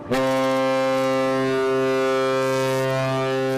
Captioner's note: horn sounding